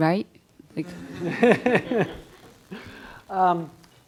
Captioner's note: laughing